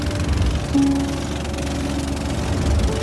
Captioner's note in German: Motorgeräusch des Bootes